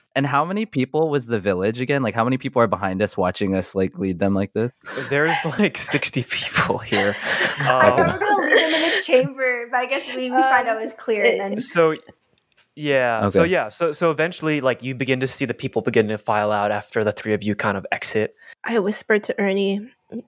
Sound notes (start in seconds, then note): 4.9 laughs; 5.0 laughter